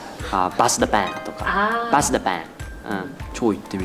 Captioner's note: in Sichuan dialect; in Sichuan dialect